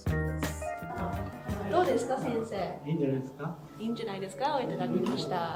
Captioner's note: speaking Japanese